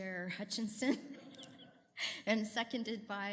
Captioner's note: laughter